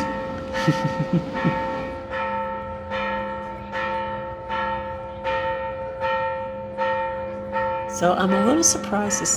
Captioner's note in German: Kirchenglocke läutet